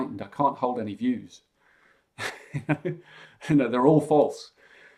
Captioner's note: chuckles